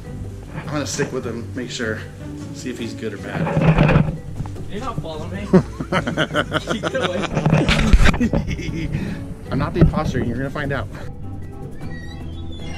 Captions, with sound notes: I'm going to sit with him to make sure. See if he is good or bad. - He's not following me. (Yellow laughs evilly) Get away from me. (Yellow continues laughing wickedly) - I'm not the imposter. You are going to find out.